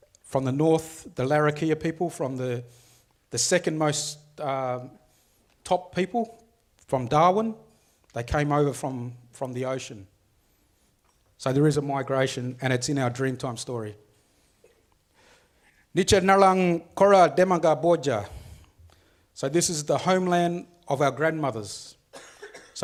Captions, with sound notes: From the north, the Larrakia people from the second most top people from Darwin. They came over from the ocean. So there is a migration and it's in our Dreamtime story. (speaks foreign language) So this is the homeland of our grandmothers.